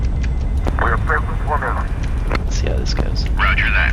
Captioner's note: crew chatter